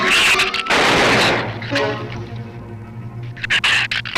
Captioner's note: gun fires; shrew snarls